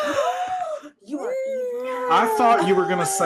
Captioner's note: all gasp